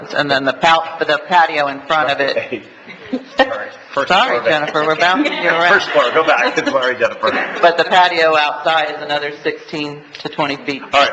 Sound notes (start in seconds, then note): 3.9 laughing